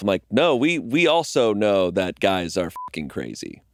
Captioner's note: beeping